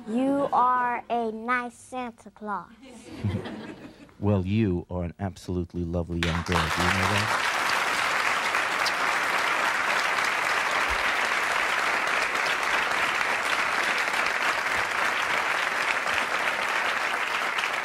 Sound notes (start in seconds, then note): 8.0 audience applauding